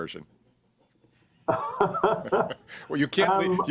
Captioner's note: laughs